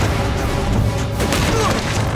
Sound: grunting

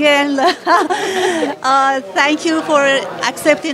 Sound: laughter

